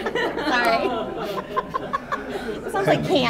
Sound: laughing

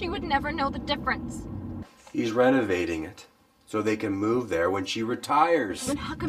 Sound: none

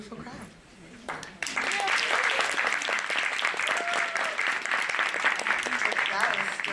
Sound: applause

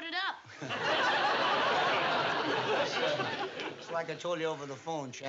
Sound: chuckles

